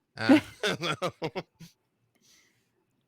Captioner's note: laughs